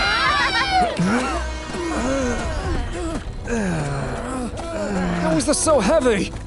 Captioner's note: grunting